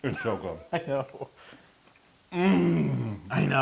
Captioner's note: laugh